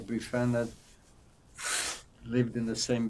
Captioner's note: wiping nose